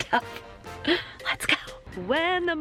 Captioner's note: whispers; still whispering